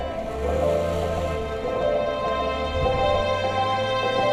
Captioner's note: engine revving